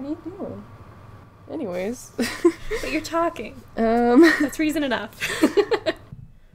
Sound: laughs

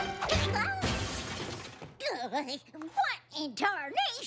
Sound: crash

